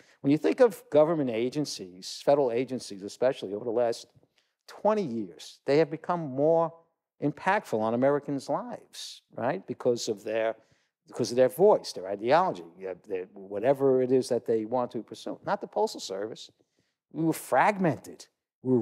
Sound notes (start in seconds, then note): none